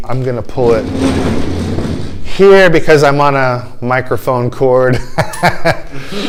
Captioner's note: laughter